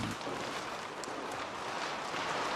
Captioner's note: loud rustling